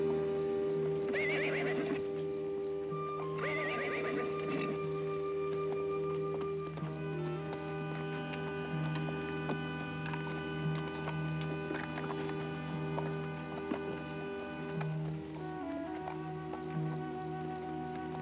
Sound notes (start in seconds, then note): 1.5 horse whinnies; 5.5 tense music